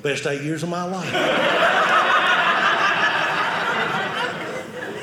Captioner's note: audience laughing